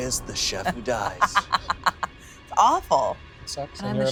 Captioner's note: laughing